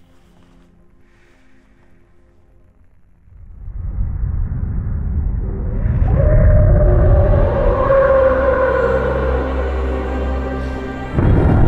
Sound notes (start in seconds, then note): 3.8 terrifying roaring, frightful sounds